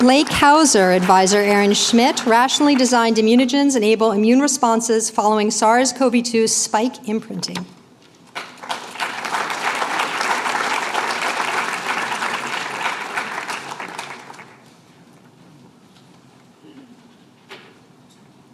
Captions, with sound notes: Blake Hauser. Advisor, Aaron Schmidt. Rationally designed immunogens enable immune responses following SARS-CoV-2 spike imprinting. [APPLAUSE]